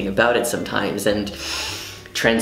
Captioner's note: inhale